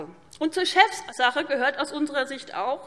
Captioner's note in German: none